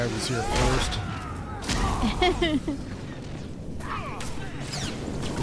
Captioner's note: laughter